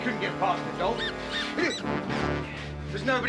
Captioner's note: mouse squeaking